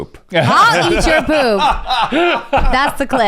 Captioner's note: laughing